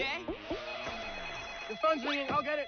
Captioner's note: phone ringing